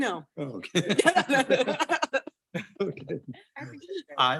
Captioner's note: board members laugh